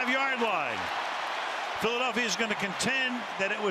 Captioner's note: cheering